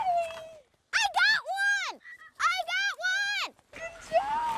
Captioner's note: shouting